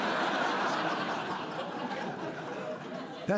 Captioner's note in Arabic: ضحك